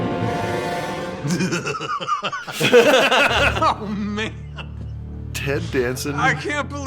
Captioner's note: evilest laugh